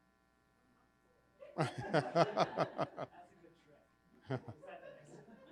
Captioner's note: people laughing